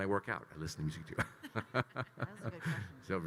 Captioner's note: Kyle and Megan laughing